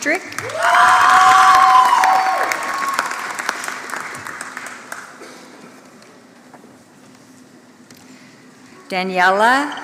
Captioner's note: applause